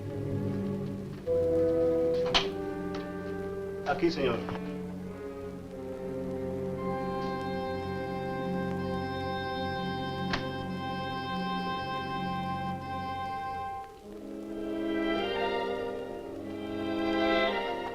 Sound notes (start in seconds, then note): 3.8 Mario speaks Spanish; 14.2 dark orchestral music